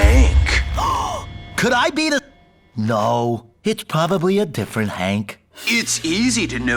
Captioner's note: gasps